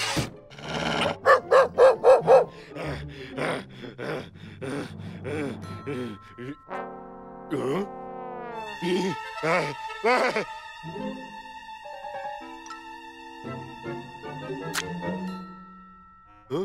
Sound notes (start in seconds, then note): 1.1 barking; 4.2 angry panting